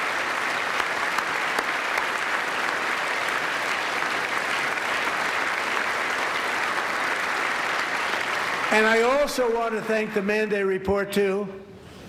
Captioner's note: applause